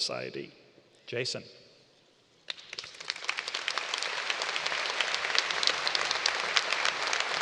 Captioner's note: applause